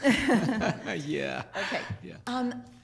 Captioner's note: laughing